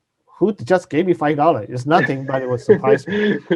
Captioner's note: laughs